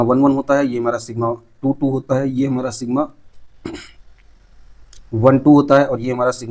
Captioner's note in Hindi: गला साफ़ करने की आवाज़